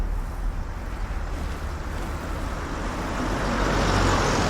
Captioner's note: engine rumbling